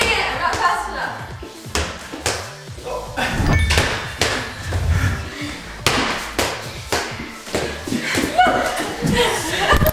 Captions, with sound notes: - Dang it I'm not fast enough. (ball bouncing) - No!